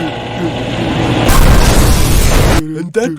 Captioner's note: helicopter Crashes